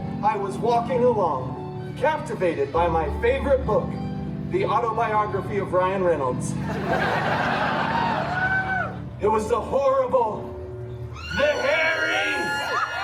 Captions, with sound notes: I was walking along, captivated by my favorite book, the Autobiography of Ryan Reynolds. [guests cheering and laughing] It was the horrible... the hairy...